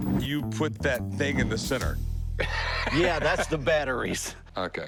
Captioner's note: laughs